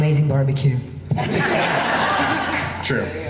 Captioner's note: laughing